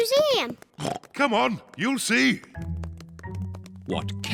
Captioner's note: oinks